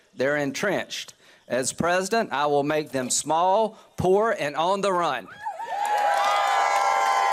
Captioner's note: cheers and applause